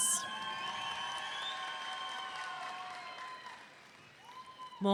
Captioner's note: audience cheering